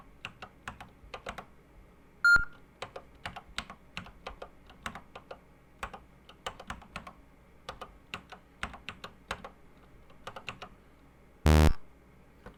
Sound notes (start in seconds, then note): 1.2 typing on a C64 keyboard